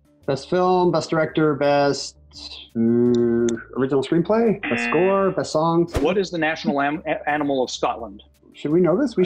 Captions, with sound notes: - Best Film, Best Director, Best... hmm, Original Screenplay? Best score, Best song. (buzzer) - What is the national animal of Scotland? - Should we know this?